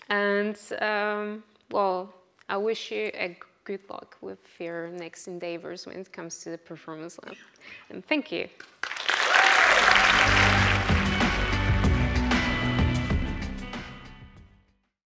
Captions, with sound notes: And, well, I wish you good luck with your next endeavours, when it comes to the performance level. Thank you. (audience applauds) (bright music)